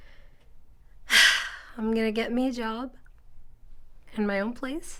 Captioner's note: sighs